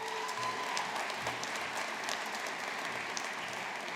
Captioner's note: audience applauding